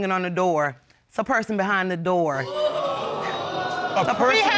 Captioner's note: audience exclaims